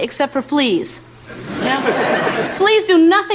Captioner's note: audience laughter